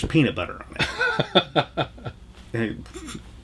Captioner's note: laughs